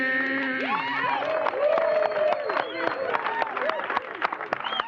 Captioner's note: cheers and applause